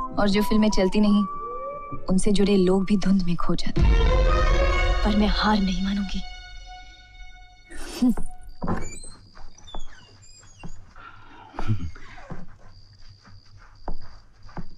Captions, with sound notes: And when films don't work, actors are often forgotten. But I won't lose hope. [Scoffs] [Door creaks]